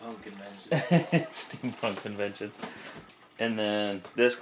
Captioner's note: laughs